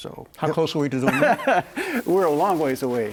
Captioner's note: laughing